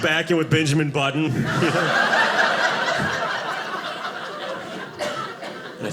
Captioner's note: audience laughing